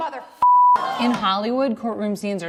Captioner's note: audience gasps